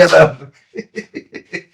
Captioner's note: laughs